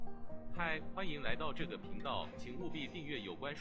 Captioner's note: speaking in Mandarin